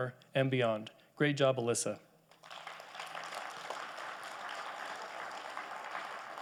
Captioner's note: audience applauding